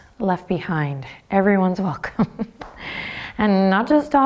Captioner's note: chuckles